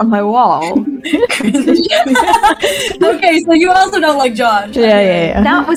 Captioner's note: laughter